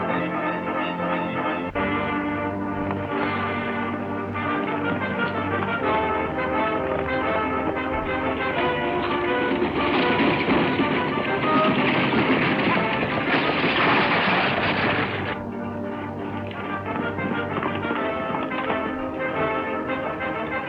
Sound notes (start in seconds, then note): 4.1 lively orchestral music; 14.1 harnesses jangling; 14.1 wagon rattling; 16.9 dramatic orchestral music